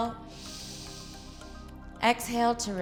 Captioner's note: inhales